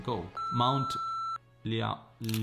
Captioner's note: beeping noise